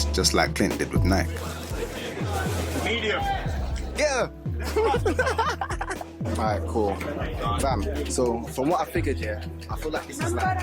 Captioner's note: laughs